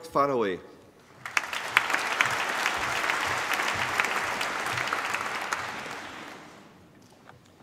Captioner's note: applause